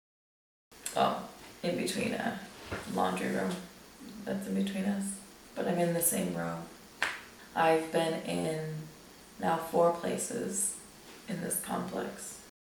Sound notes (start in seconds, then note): 0.7 clicks tongue; 7.0 plops hand on leg